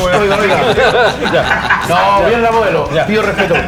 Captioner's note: laughs